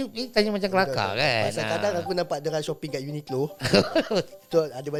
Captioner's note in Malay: ketawa